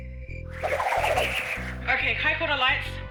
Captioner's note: whoosh!